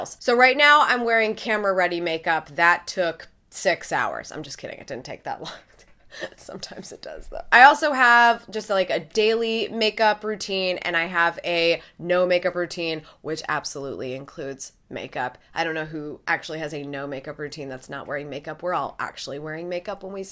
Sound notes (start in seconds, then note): 5.4 laughing-crying